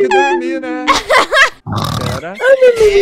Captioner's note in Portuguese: rindo